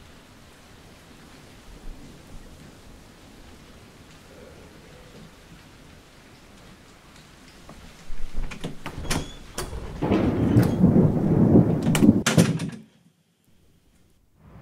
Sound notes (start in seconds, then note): 8.0 door opens; 11.7 door closes